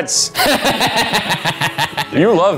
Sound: laughs loudly

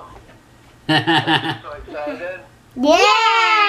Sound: laughs

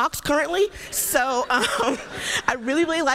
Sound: laughter

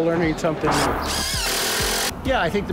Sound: drilling

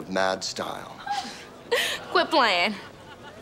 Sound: chuckles

